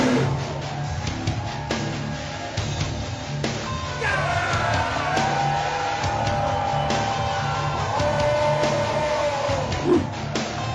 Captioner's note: dinosaur roaring; yelling